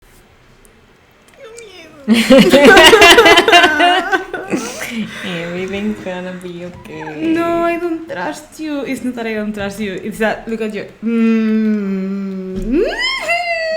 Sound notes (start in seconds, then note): 1.4 cries; 1.4 laughs